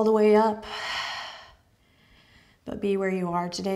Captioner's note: exhales